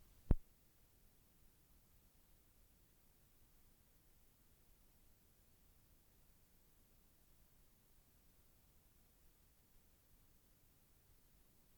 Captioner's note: no audio